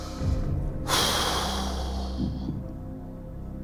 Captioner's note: sighs